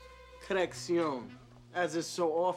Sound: French accent

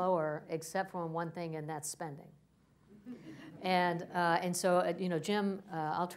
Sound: laughter

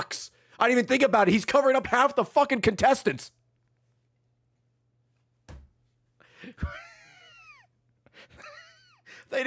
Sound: laughs

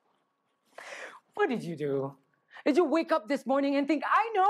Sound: sighs

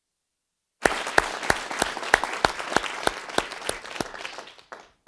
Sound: applause

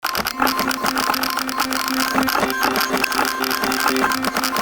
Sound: typing and beeping

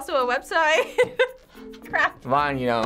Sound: laughs

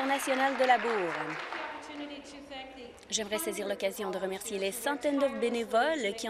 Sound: applause

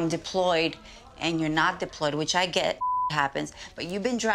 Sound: beep

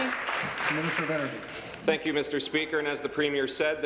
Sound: applause

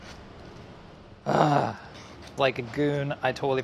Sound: sighs

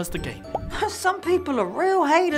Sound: bubble popping

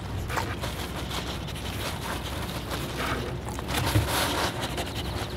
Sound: Flip sniffs

